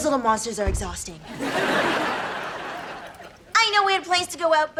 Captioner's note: laughs